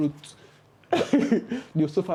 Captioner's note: laughs